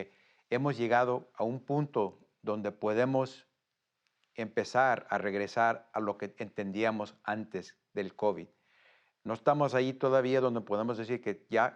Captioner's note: speaks Spanish